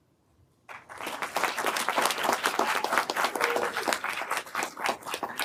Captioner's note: everyone applauding